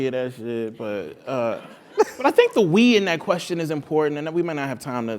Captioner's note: laugh